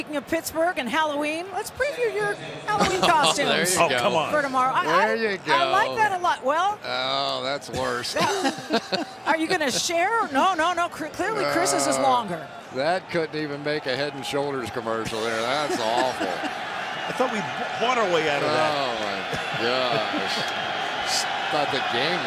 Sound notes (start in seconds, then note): 8.0 laughter; 19.4 laughs